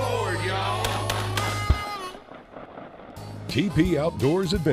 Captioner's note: gun firing